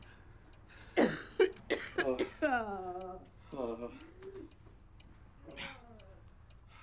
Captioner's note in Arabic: دقات الساعة; تئن المرأة